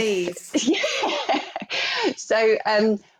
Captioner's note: laughs